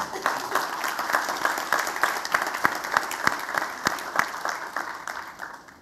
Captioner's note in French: Applaudissements